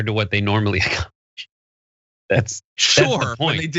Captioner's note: laugh